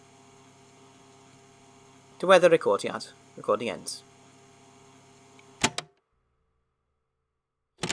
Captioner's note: tape clicks off